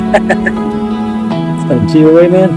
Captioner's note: laughing